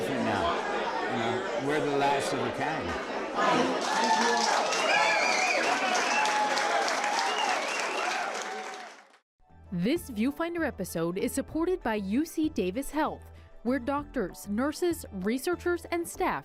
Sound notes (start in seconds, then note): 6.1 applause